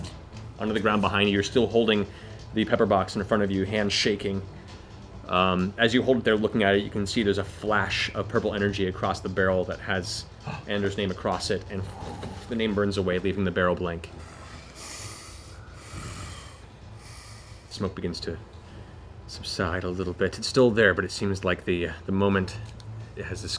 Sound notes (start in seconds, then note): 11.1 fluttering noise; 14.1 heavy breathing